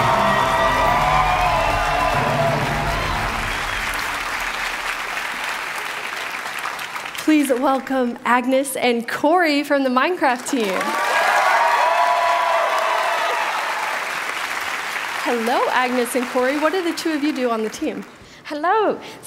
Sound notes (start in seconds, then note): 6.4 applause; 13.8 applause